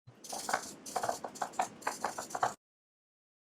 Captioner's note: sound of pencil scratching